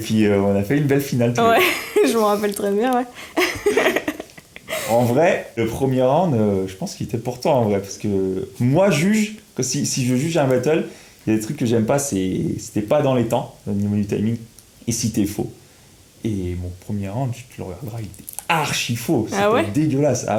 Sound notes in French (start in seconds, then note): 3.3 Rires